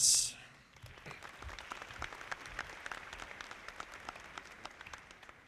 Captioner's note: audience clapping